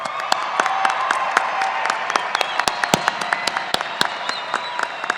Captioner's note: audience applauding